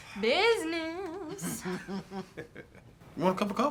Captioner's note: Colleen laughs